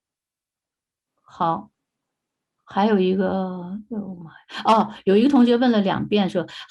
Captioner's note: speaking in foreign language